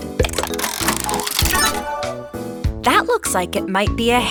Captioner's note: mechanical whirring